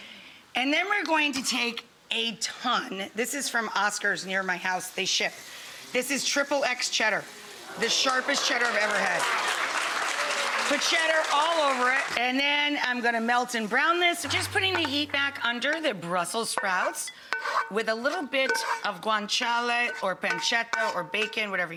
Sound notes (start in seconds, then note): 7.8 audience applause